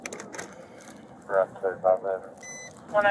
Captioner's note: radio chatter